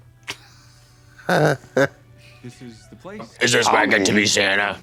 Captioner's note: Trixie chortles